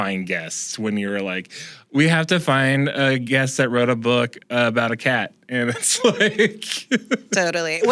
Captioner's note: laughs